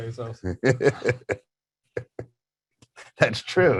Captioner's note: laughing